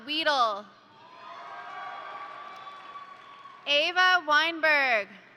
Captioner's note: crowd cheering; crowd applauding